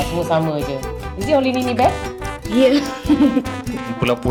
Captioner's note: laugh